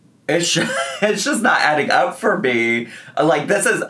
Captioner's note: laughs